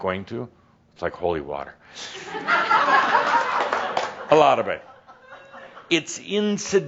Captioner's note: laughter